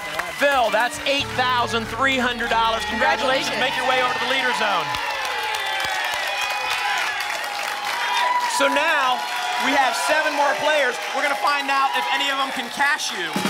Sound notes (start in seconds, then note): 5.0 applause and cheering